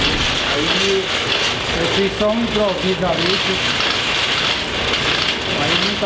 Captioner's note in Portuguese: máquina de argila sobrepõe diálogo